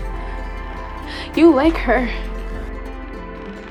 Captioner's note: voiceover